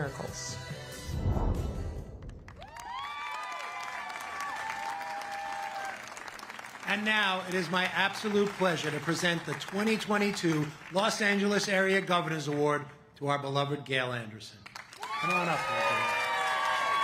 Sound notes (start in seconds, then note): 9.3 cheers and applause